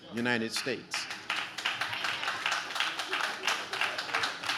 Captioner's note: audience claps